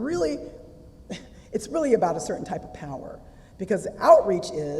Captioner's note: laugh